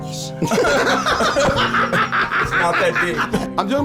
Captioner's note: both laughing